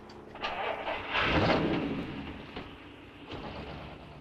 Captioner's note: car engine rumbling